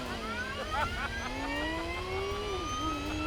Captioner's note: laughs